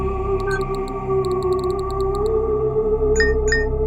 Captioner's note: keyboard clicking; beeping